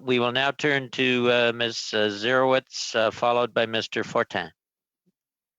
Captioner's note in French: voix de l'interprète